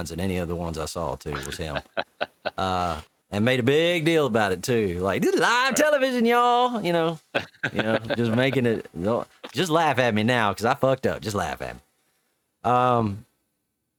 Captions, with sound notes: in any of the ones I saw too was him. (laughing) And made a big deal about it too. Like, "Do the live television, y'all." (laughing) Just making it, just laugh at me now, because I fucked up, just laugh at me.